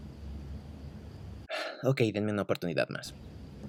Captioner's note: sigh